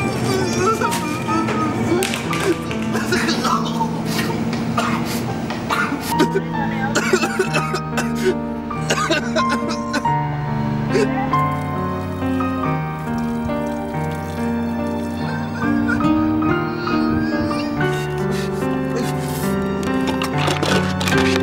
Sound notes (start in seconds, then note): 0.0 weeping; 7.6 lamenting; 15.1 whimpering; 18.1 boohoo-ing